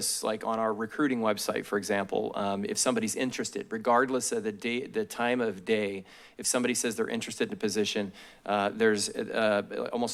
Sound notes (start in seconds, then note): none